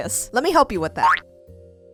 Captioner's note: boop